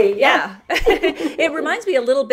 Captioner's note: laughter